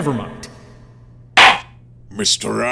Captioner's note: gavel slams!